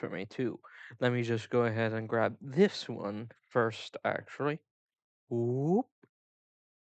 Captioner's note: dumb mouth noise